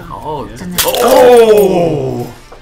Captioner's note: glass shattering